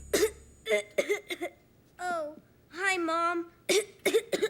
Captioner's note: cough, cough; cough, cough